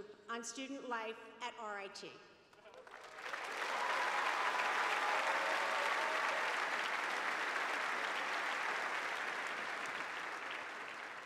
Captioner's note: cheers and applause